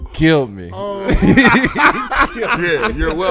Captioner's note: laughing